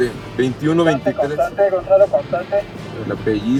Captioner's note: voice on radio